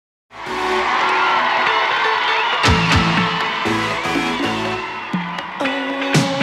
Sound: audience cheering; upbeat music

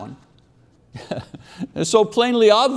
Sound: chuckling

